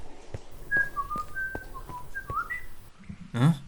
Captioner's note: whistling